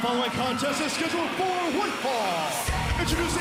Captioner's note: bell ringing